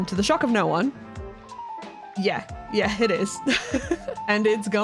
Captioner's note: chuckle